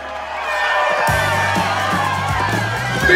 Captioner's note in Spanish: multitud vitorea; alarma de salida suena